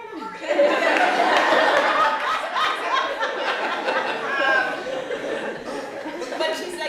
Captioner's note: laughter